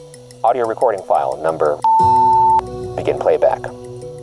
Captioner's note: beep